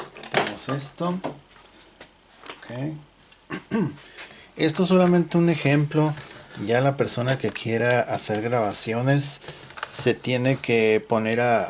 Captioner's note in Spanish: carraspeo